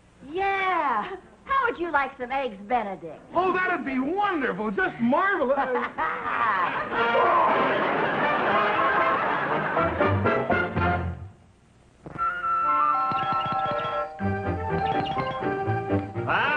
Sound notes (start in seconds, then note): 5.5 Lucy laughing; 7.2 Harry groaning; 7.2 audience laughing; 12.2 soft orchestral music; 12.9 doorbell ringing